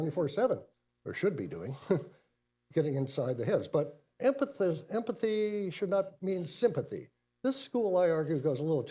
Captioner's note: laughs